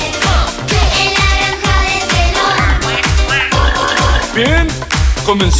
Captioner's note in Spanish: Sonido de animales